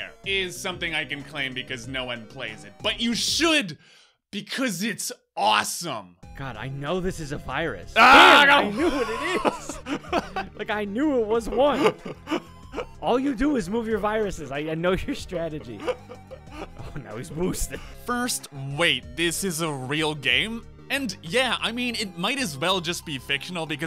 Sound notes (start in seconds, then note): 11.6 muffled laughter